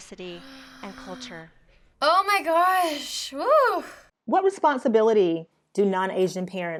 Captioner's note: gasps